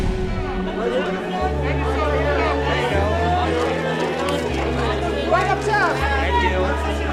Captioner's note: dramatic orchestral music; photographers shouting